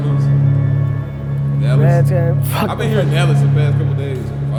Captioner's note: siren drowns out all other sound